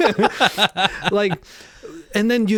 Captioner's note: both laughing